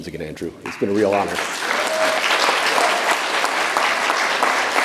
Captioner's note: audience applauds